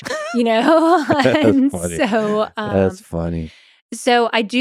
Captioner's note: chuckles